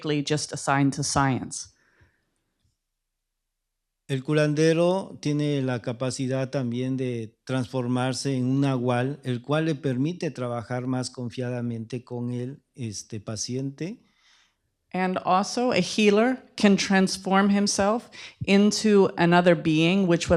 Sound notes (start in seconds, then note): 5.4 speaking spanish